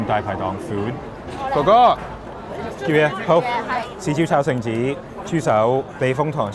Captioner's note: group speaking in foreign language